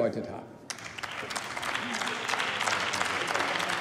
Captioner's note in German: Beifall beim BÜNDNIS 90/DIE GRÜNEN